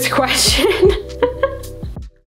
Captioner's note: laughs